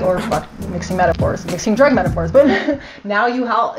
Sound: laugh

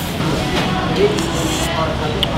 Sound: slurps

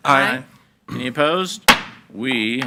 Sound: gavel bangs

